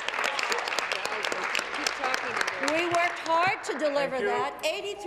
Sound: applause

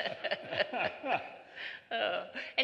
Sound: laughter

